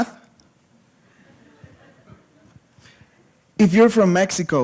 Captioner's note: laughter